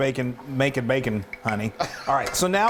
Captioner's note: laughs